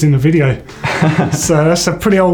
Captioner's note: laughing